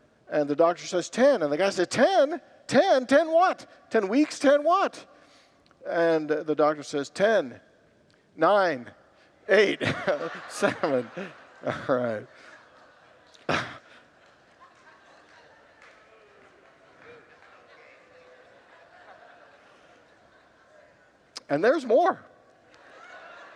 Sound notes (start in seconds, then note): 12.2 congregants laugh; 16.2 laughs